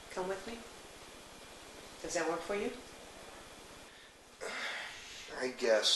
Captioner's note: Bob sighs